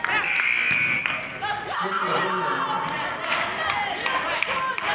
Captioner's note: buzzer sounding